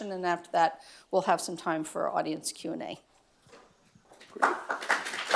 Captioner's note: applause